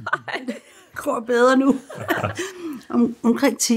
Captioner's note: chuckles